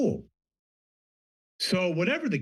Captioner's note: pause